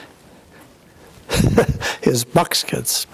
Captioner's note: laughs